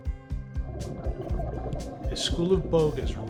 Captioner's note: fish swimming